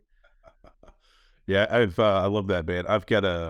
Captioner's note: chuckles